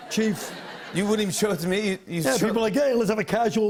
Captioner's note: light laughter